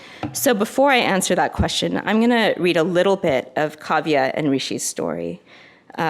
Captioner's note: none